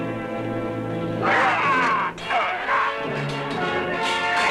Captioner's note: yelling, clanging